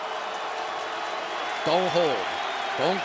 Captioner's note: cheering